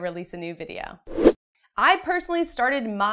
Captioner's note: air whooshing